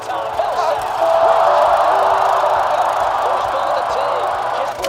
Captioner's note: crowd cheering